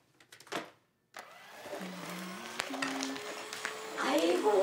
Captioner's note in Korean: 콧노래 소리